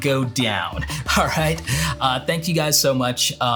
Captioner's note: laughs